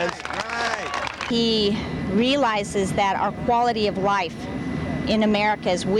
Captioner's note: audience applauding